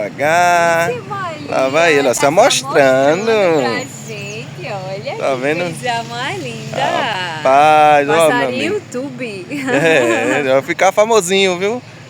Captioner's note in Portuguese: risadas